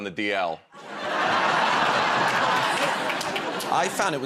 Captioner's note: laughter